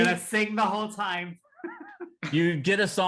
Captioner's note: laughing